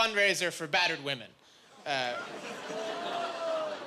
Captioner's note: jeering